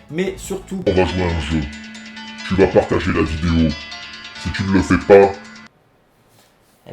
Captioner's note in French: Voix de Jigsaw